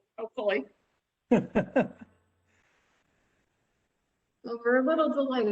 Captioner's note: laughter